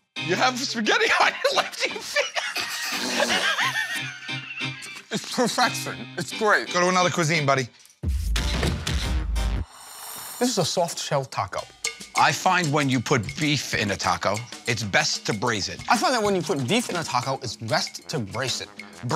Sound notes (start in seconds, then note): 1.0 laughs; 3.1 laughter